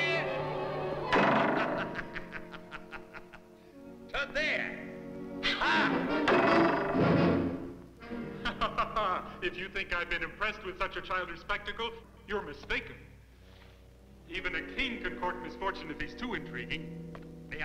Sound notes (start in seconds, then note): 0.8 laughs; 1.0 bow thuds; 8.1 laughs